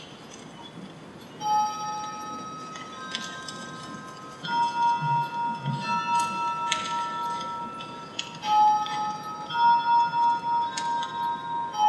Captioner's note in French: son de cloche